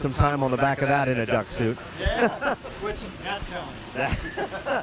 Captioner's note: laughing